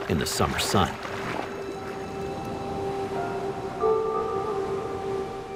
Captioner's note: water splashing